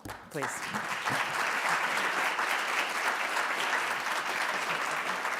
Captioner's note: audience applauding